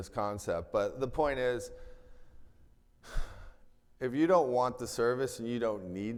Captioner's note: sighs